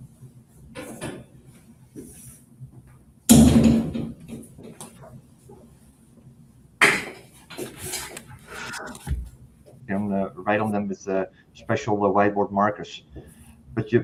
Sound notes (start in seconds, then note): 3.3 closes cabinet door